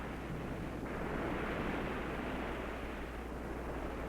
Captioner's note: waves crashing